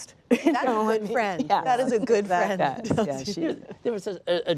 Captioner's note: laughter